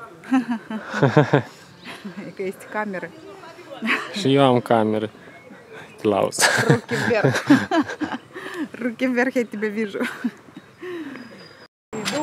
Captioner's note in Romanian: Râsete